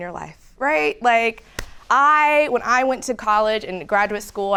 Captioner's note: hands clapping